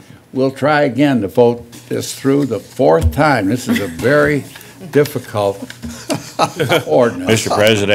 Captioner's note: laughter